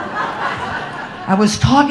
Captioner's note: audience laughing